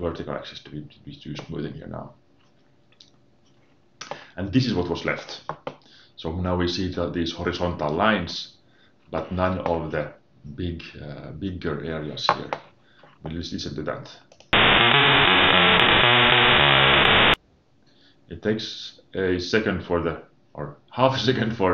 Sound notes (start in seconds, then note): 14.5 distorted sounds